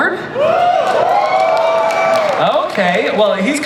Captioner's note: audience cheers